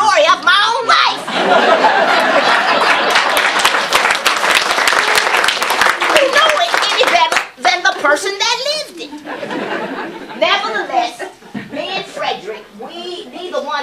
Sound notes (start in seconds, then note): 1.3 audience Laughter and Applause; 9.1 laughter